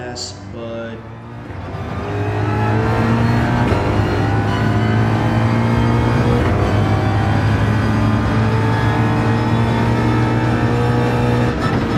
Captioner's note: engines revving, cars noises